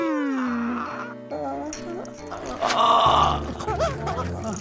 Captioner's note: Nutty whimpering